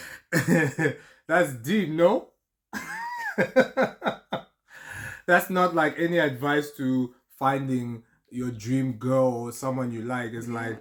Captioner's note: laughter